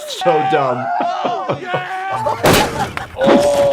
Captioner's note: all cheering